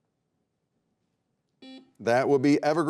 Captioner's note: buzzer beeping